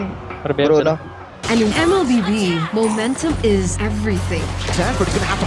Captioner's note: in English